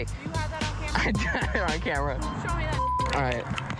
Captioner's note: laughs